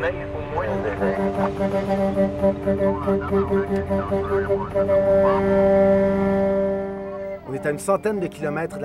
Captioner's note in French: klaxons